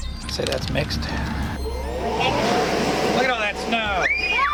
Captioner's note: snow machine revs up; kids make excited noises